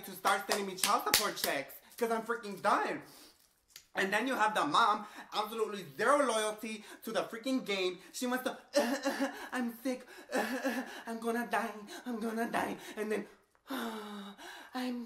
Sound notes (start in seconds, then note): 8.8 coughs